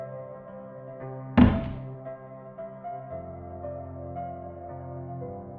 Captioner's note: thud